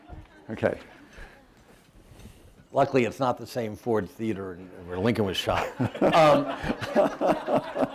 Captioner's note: laughter